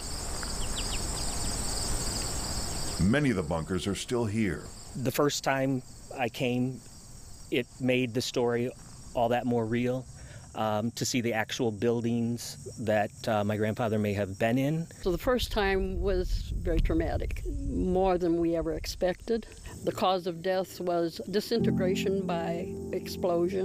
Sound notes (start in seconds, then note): 2.6 birds chirping